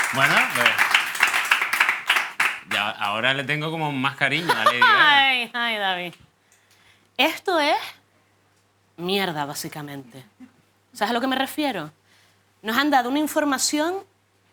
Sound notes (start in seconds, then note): 4.2 laughs